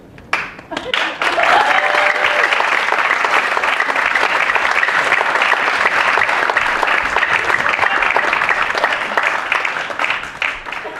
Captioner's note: applause